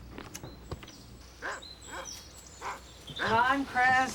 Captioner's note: dog barks